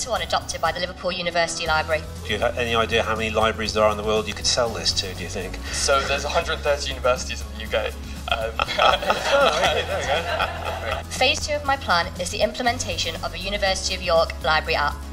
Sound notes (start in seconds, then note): 8.2 laughter